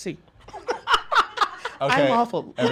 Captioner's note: laughs